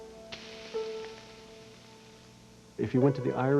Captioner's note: sizzling